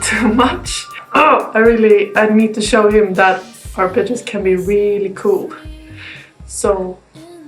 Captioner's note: angry noises